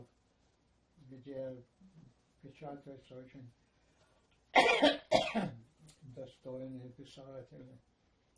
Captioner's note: coughing